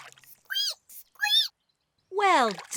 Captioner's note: laughs; squeaks